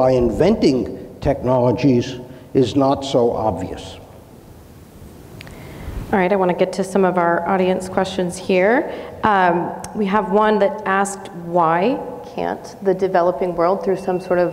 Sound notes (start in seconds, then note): 10.0 clicks tongue